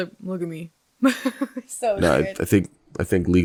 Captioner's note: laughing